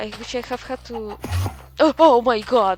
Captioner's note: enderman teleports